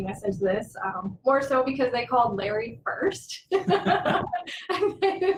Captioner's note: laughter